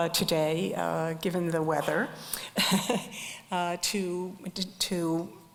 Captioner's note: chuckles